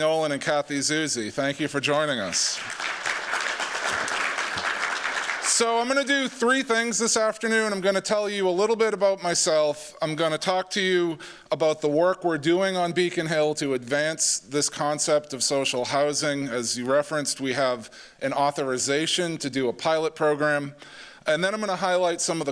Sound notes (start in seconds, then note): 2.2 applause